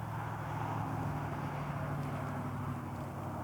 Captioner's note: sounds of wind and traffic in the distance